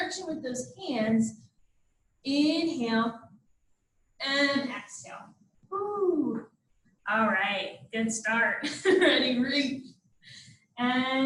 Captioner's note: laughter